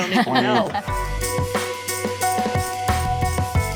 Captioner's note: laughing; upbeat music